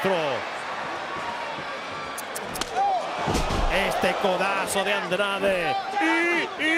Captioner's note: applause